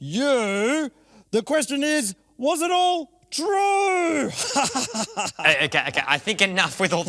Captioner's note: laughing